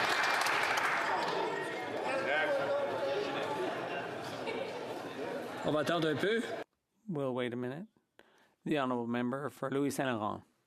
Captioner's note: some Applause